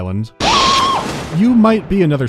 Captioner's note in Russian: крик Марва